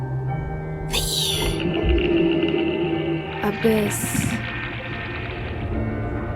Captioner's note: creature chittering